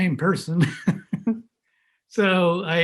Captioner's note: laughs